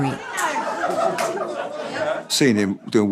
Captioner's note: laughter